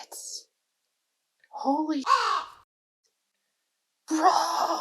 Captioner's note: caw